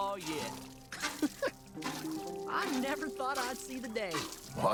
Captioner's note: laughs